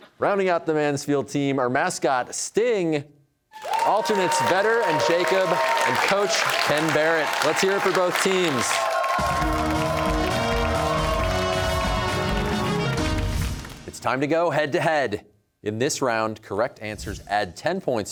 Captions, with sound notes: Rounding out the Mansfield team are mascot Sting, alternates Vedder and Jacob, and coach Ken Barrett. Let's hear it for both teams. (cheers and applause) It's time to go head-to-head. In this round, correct answers add ten points